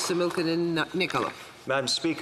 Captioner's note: speaking Alternate Language